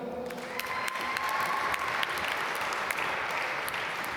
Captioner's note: applause